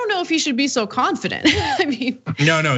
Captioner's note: laugh